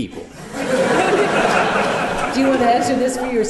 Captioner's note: laughter